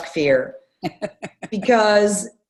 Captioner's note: laughs